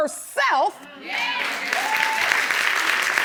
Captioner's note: audience applauding and cheering